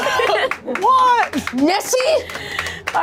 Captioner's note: claps